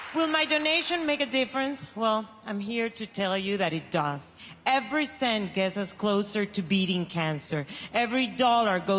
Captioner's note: applause